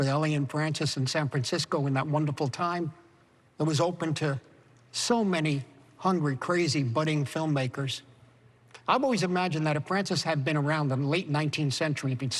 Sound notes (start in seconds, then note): none